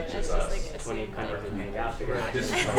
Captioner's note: laughter